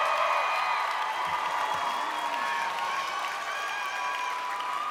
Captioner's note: crowd cheering